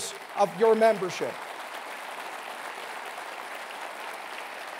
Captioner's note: applause